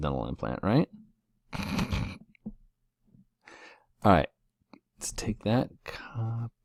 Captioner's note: laugh